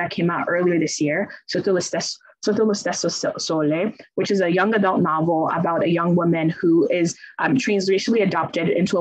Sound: speaks in Italian

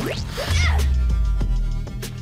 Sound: grunts

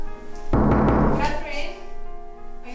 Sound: door knocks

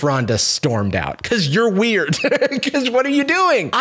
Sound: laughs

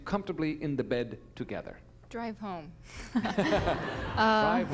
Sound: laughter

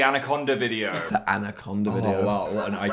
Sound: laughs

